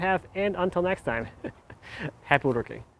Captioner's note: laughs